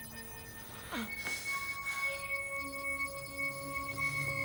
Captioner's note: groaning